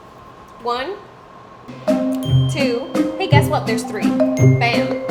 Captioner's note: bell dings